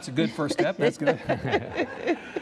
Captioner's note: laughter